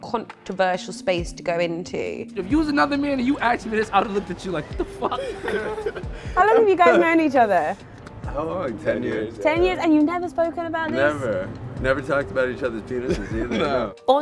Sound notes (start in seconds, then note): 4.7 laughter